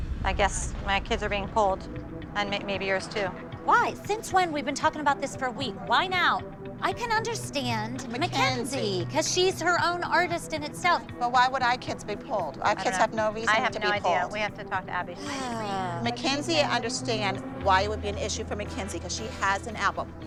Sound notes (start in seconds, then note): 15.2 sighs